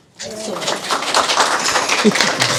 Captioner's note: applause